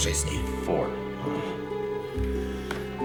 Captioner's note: groans